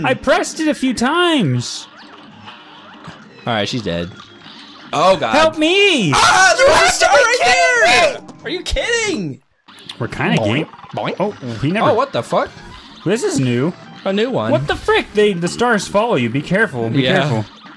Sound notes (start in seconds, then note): 3.6 calmly; 6.0 screaming; 13.3 surprised